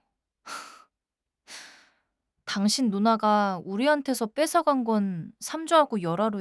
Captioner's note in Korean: 한숨